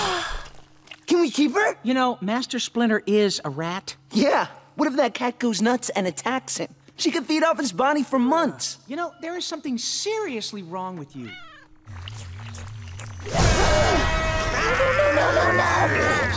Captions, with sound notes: Can we keep her? You know, Master Splinter is a rat. Yeah, what if that cat goes nuts and attacks him? She could feed off his body for months. You know, there is something seriously wrong with you. [meowing] [gasping] No, no, no, no, no, no!